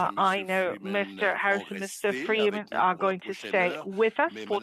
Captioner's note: speaking French